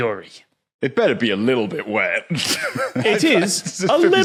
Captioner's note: giggles